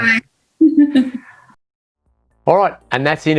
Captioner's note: laughs